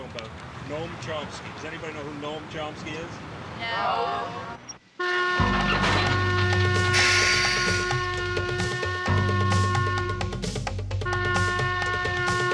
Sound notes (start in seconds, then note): 5.2 whistle blowing; 7.8 up-tempo music